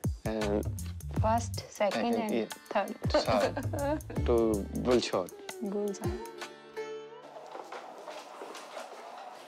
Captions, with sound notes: - First, second, and third. (CHUCKLES) - Good shot.